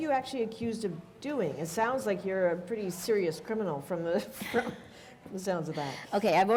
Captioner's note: chuckle